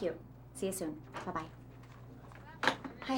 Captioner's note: indistinct chatter